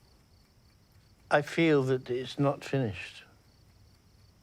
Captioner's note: none